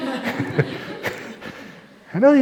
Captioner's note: laughs